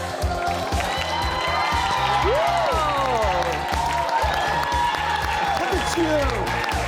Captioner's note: cheering; inspirational music